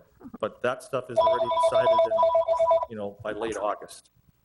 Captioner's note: telephone ringing